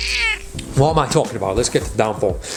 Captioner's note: cat meows